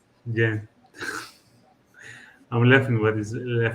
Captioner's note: laughs